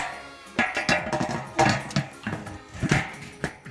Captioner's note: lid clanging